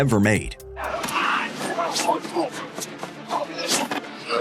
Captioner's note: grunting, sounds of combat